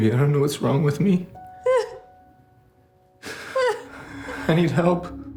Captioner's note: Whitney sobbing